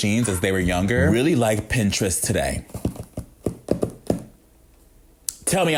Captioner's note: fingers tapping